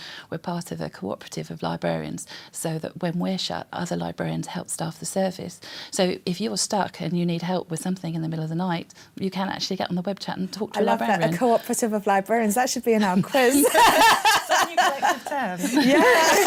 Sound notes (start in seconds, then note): 13.3 laughing